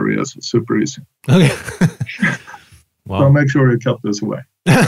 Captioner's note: laughs